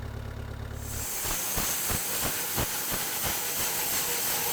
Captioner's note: saw humming